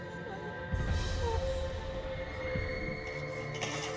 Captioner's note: whimpering; whimpering